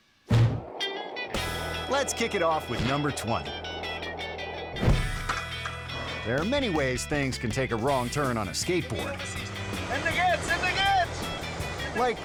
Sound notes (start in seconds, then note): 0.5 air whoosh; 1.4 surfer music; 4.1 surfer music; 5.2 air whoosh; 5.2 board clicking; 9.0 surfer music; 9.4 speaking in a foreign language